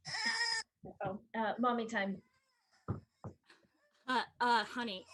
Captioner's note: baby Cries